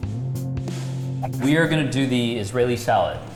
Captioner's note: slow rock music; air whooshing